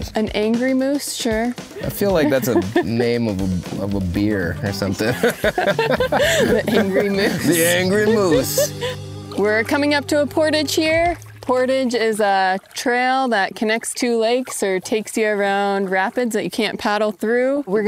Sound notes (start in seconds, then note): 5.0 both laughing; 8.4 laughing; 10.8 water sloshing